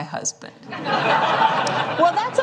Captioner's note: laughter